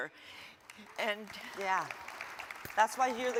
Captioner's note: audience claps